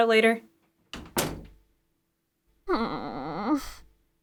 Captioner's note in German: Tür knallt; Charakter seufzt